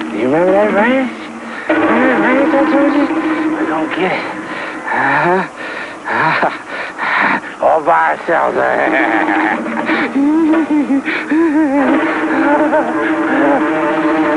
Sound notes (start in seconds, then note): 4.4 excited panting; 8.4 laughing; 8.6 giggling